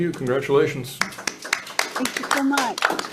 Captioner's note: hands clapping